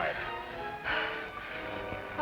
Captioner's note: sighs